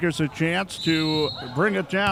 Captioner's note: referee whistling